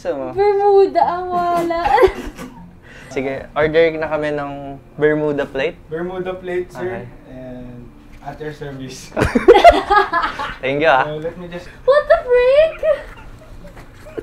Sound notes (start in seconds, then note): 9.1 laugh